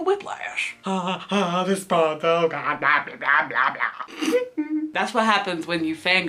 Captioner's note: laughs